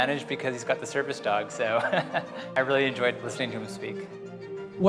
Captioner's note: chuckles